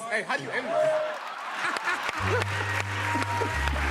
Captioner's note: laughter, applause